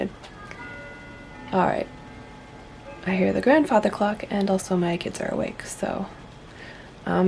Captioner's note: clock chiming